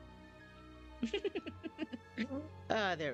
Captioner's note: giggles